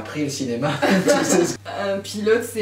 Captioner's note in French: Rires